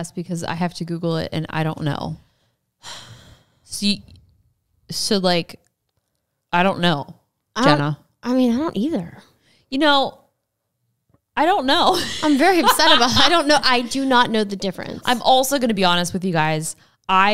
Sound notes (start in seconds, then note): 2.8 sighs; 11.9 laughs